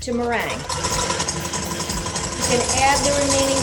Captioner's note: mixer whirring